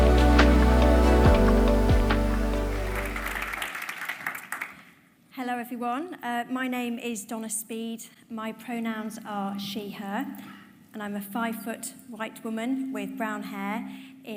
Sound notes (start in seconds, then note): 2.8 audience applauding